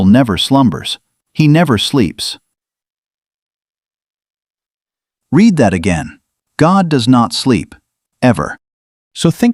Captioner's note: pause